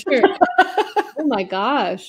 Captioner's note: laughing